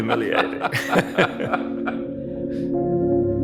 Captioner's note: laughing; soft music